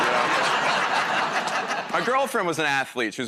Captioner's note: laughter